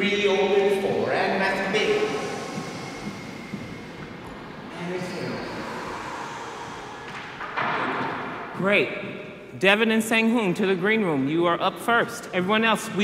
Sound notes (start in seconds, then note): 1.9 breathes in; 6.1 exhales